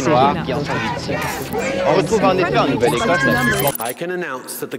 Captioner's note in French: Voix des démonstrations